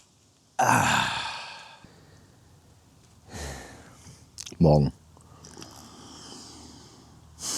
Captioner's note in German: seufzt